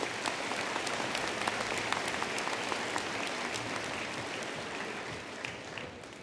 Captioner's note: applause